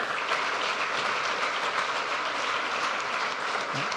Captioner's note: audience applauds